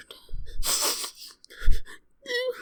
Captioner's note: sniffs